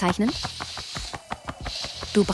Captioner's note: soft upbeat music; wings fluttering; curtain swooshing